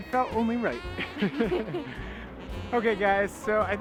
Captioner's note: both laughing